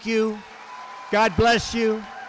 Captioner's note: applause